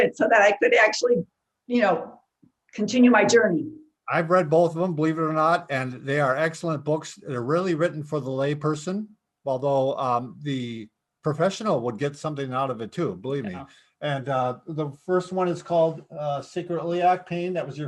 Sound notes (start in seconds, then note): none